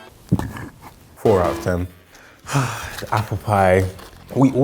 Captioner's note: burps; error bell